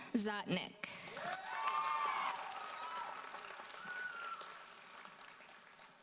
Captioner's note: audience cheers and applauds